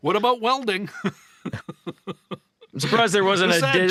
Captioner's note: laughter